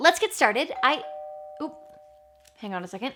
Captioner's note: doorbell rings